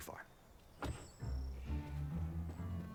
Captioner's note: car door closing